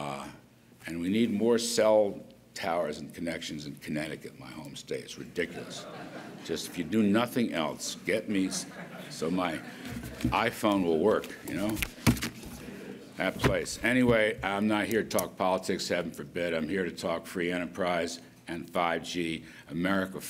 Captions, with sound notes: And we need more cell towers and connections of kinetic in my home state, it's ridiculous. (laughter). Just, if you do nothing else, get me so my iPhone will work, you know. That place. Anyway, I'm not here to talk politics, heaven forbid. I'm here to talk free enterprise and 5G, America first.